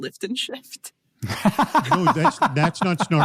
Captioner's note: laughing